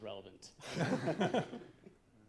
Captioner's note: laughter